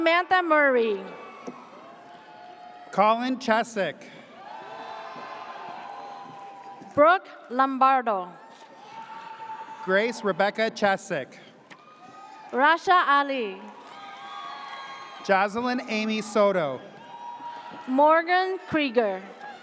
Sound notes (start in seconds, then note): 4.3 audience cheers; 8.8 audience cheers; 13.7 audience cheers